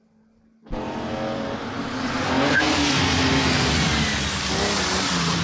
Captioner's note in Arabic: هدير المحرك